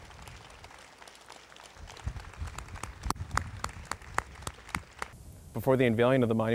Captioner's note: applause